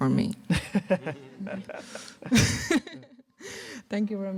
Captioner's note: laughter